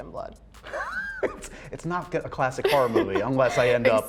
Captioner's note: laughs